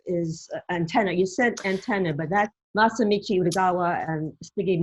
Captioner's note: murmurs